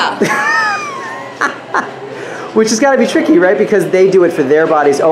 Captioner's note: laughs